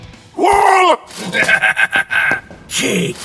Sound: manic Laughter

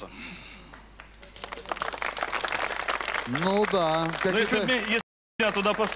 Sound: applause

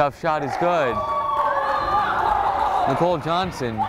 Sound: crowd cheering

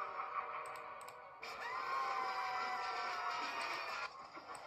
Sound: Mac, Coco, Eduardo, and Wilt screaming

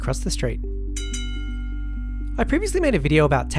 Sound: bell dings

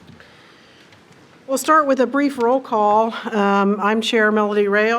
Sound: chairs creak

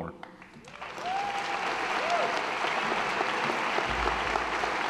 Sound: audience applauding

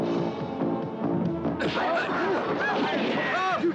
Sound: upbeat, dramatic music; gun blasting; men grunting

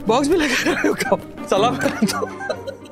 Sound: laughing

